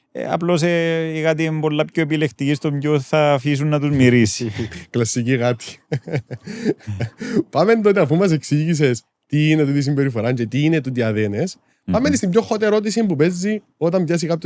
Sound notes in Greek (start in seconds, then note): 5.6 γέλιο